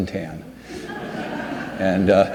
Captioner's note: audience laughs